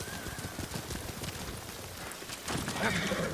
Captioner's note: thunder rumbling